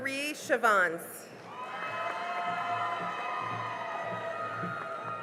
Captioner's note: cheering and applause